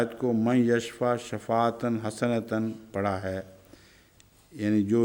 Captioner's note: Arabic